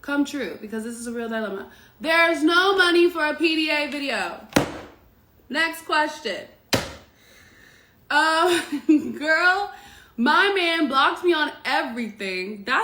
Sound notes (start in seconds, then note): 4.5 slams phone